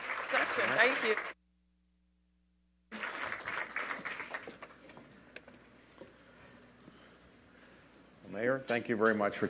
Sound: applause

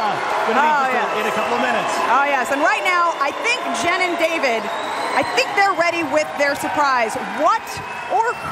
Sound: applause; applause

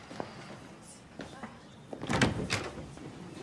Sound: faint chatter

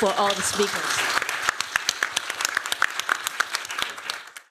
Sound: applause

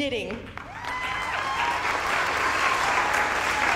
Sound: cheering and applause

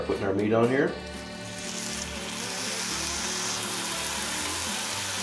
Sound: meat sizzling

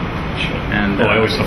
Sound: laughs

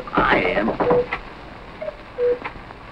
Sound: knocking

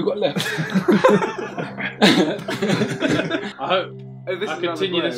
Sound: all laughing

